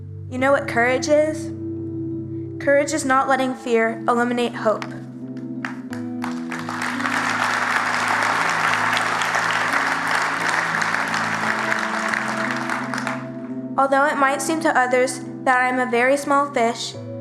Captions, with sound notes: You know what courage is? Courage is not letting fear eliminate hope. [Audience Clapping] Although it might seem to others that I’m a very small fish